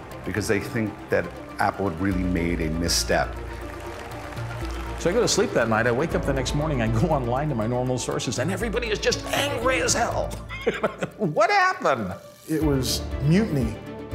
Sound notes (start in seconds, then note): 10.3 laughs